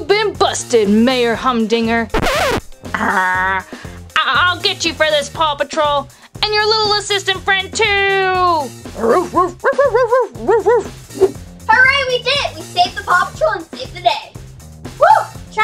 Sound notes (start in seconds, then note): 2.1 record scratching; 9.0 Chase barking